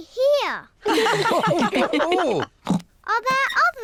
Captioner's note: all laugh